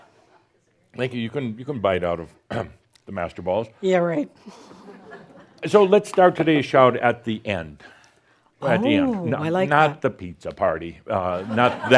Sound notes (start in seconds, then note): 4.5 more chuckles; 11.3 laughter